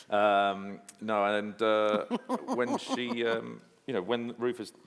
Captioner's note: anne-marie chuckling